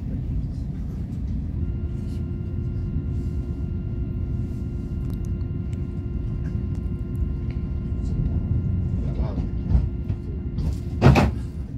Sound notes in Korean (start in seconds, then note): 1.5 출입문 닫힘